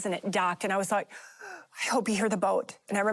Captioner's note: gasp